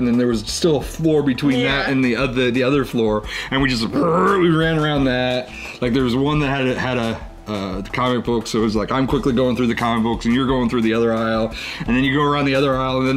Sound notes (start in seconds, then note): 3.7 man imitating engine